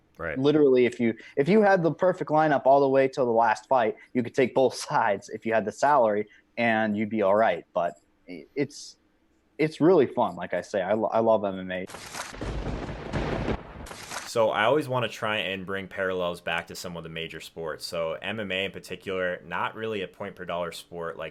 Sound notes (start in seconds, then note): 11.9 lightning crashes